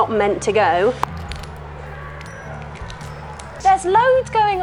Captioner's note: cracking